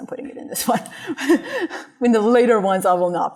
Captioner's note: laughter